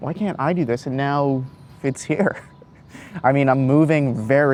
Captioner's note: chuckles